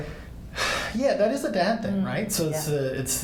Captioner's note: sighs